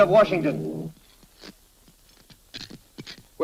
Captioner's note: static buzzing